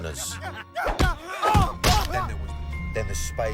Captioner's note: man grunts